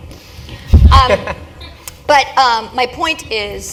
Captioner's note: laugh